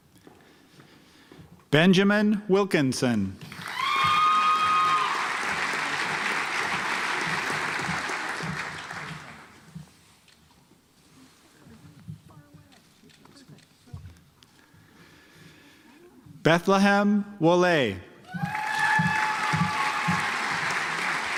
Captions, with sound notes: Benjamin Wilkinson (audience applauds) Betelehem Wole (audience applauds)